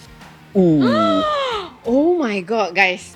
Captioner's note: gasps